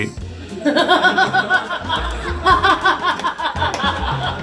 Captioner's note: audience laughing